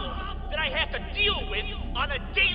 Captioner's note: echoing